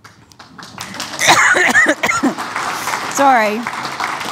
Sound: applause

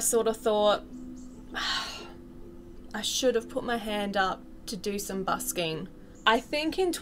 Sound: exhale

